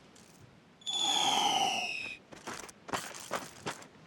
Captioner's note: whooshing sound